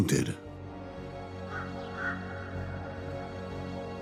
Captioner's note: crow croaking